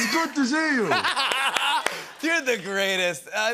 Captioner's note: laughter